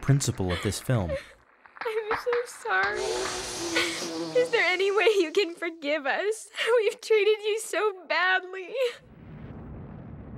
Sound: sobbing

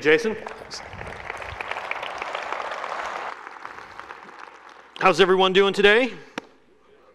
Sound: applause

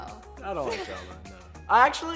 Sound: chuckling

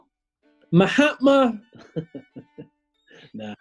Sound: chuckling

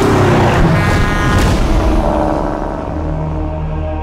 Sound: truck horn honks

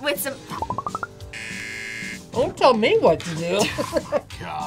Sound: buzzer; both laugh

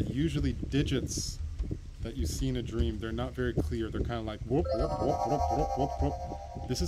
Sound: sound effects

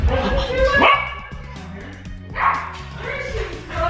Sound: Logan barking

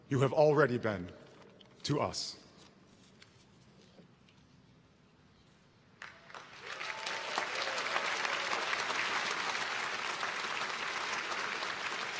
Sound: applause

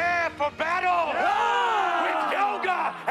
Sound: yelling

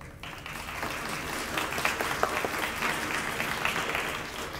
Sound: audience applauding

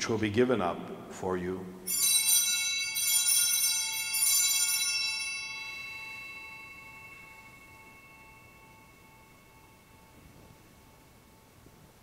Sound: bellringing

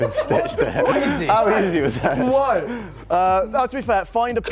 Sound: laughter

